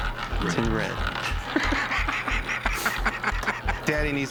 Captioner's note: laughs